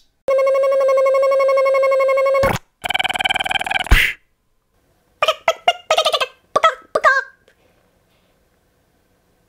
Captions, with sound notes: [ buzzzz snap ] [ buzzzz pop ] Cluck> bok bok bok bugok bugok